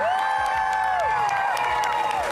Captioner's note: cheering